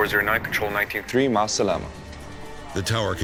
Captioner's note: speaks in foreign language